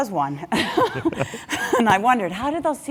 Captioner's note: laugh